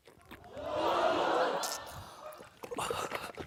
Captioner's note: audience exclaims; grunts